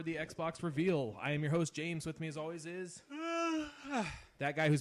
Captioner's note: yawn